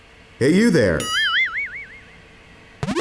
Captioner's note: 8-bit riser; toing sound